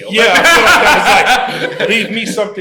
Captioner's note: laughter